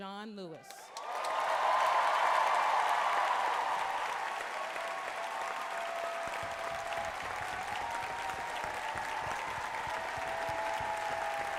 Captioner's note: applause, loud prolonged cheers